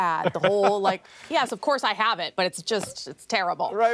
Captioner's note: laughter